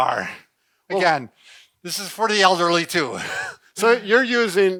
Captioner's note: laughs